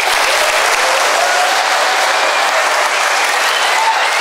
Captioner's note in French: Applaudissements